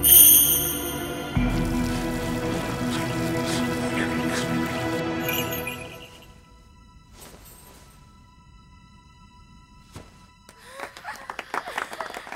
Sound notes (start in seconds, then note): 1.7 Gengar sobbing; 5.0 bells chime; 10.6 audience applauding